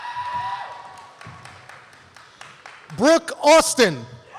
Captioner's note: applause